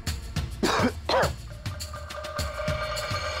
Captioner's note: coughs